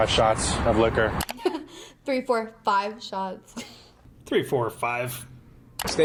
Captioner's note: laughs